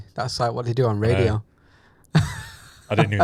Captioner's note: laughs